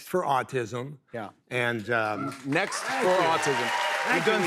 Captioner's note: cheers and applause